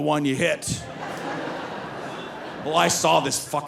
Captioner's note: audience laughing